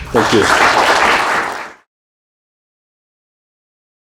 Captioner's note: applause